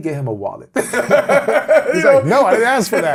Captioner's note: laughs